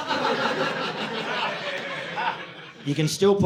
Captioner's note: audience laughing